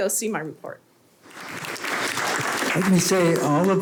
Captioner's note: audience clapping